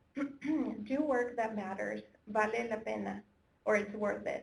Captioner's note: foreign language